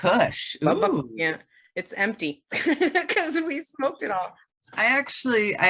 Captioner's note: laughs